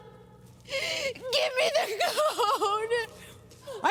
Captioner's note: voice breaking